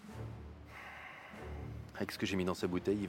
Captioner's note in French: soupir